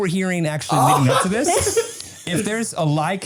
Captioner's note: laughing